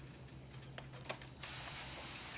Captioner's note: click